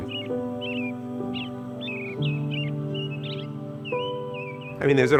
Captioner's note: birds chirping; soothing music